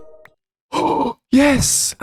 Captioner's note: gasp